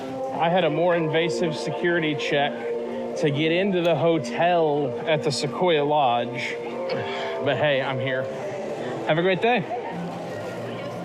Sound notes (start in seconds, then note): none